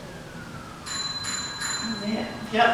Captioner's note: ringing